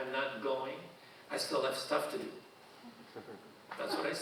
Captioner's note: audience chuckling